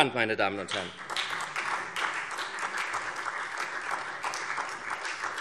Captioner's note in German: Beifall SPD und vereinzelt Freie Demokraten